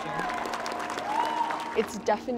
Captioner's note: applause